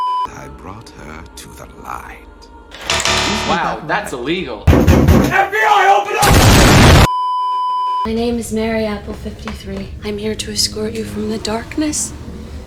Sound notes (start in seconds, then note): 0.0 beeeeeeeeeeeep; 4.6 bambambam; 7.1 beeeeeeeeeeeep